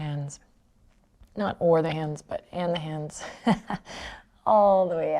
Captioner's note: laughs